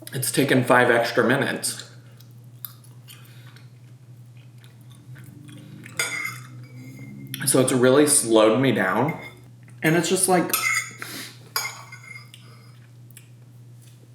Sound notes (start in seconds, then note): 2.1 chews; 5.9 plate tinkling; 11.6 plate tinkling